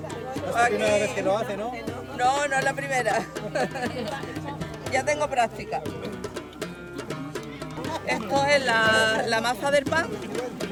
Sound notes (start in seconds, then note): 3.2 laughs